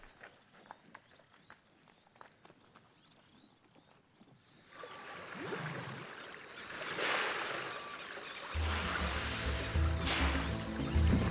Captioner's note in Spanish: sonidos selváticos